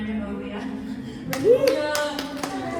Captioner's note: applause